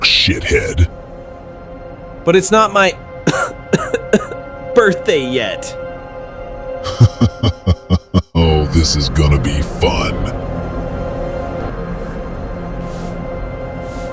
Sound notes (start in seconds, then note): 3.2 coughs; 6.8 laughs